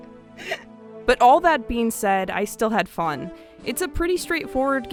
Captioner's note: corpsing